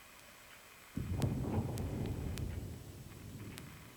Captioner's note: distant explosion